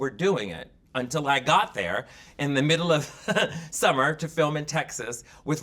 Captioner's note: laughing